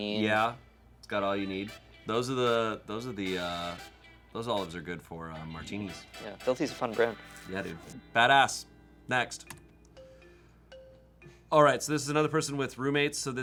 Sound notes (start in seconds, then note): 9.3 key clacking; 9.9 soft music